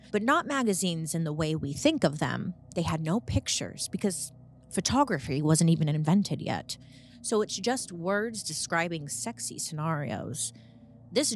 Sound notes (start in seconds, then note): none